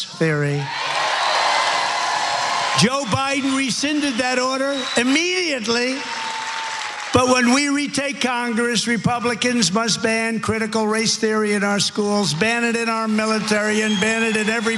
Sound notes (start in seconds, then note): 0.7 applause